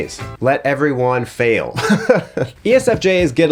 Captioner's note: laughs